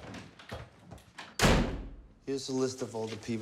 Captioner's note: door slams